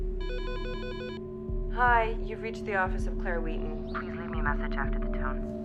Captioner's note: phone rings